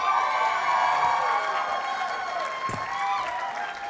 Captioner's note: audience cheers and applauds